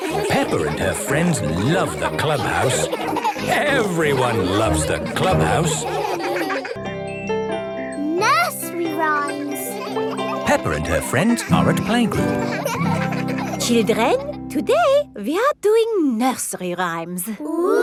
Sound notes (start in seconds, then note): 6.2 all laughing; 12.6 children laughing